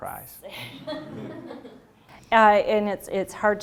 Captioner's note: laughter